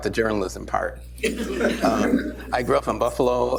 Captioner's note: laughter